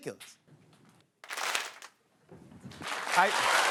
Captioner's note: audience claps; cheers and applause